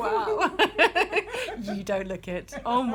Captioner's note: laughter